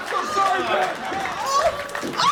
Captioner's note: loud scream